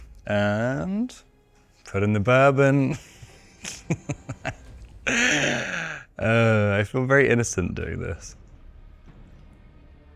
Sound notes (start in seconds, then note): 2.9 Robert chuckling